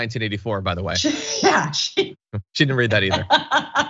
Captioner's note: laugh